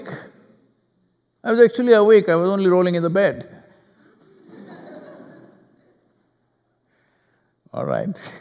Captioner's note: laughter